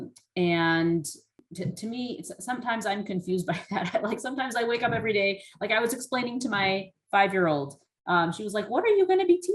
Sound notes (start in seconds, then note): 3.6 laughter